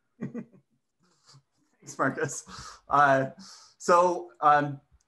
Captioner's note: chuckles